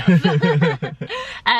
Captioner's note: both laughing